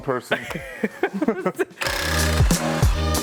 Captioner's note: laughing